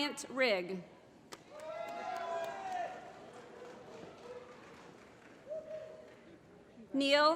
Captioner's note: applause